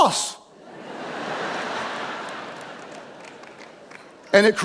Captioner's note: audience laughing; audience chuckles